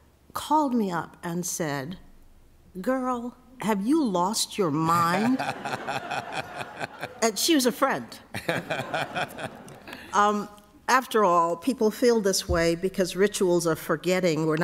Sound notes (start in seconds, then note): 5.0 laughter